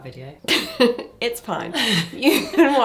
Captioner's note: chuckles